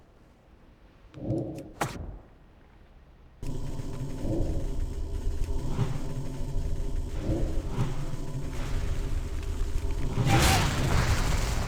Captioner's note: gun fires